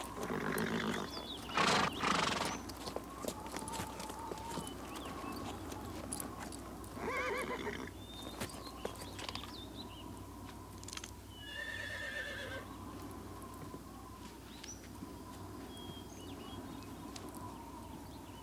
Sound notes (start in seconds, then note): 1.4 horse snorts; 7.0 horse neighs; 11.4 horse neighs